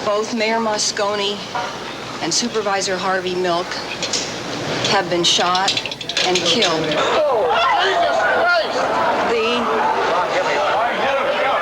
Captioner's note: crowd reacts